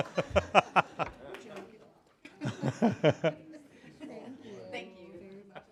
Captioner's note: applause